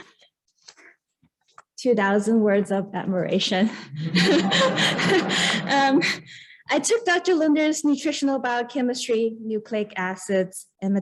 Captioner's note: laughter